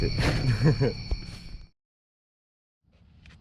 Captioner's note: laughs